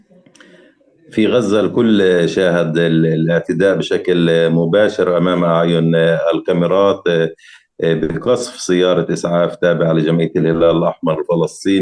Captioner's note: speaking arabic